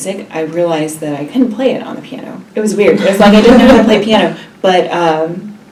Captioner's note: laugh